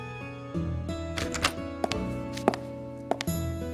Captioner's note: door opening sound